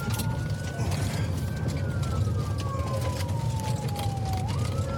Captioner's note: siren wailing